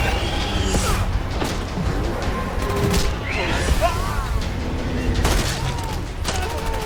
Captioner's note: creature roaring; hammer thudding